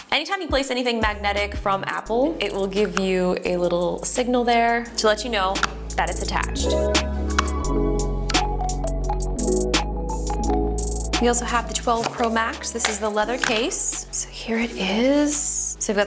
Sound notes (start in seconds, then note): 7.3 magnet clinks; 8.5 soft electronic music